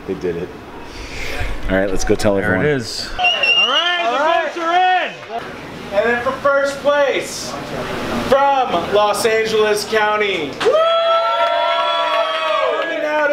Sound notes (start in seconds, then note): 3.1 whistling; 10.6 cheering